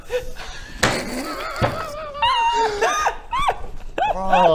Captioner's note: heartless laughter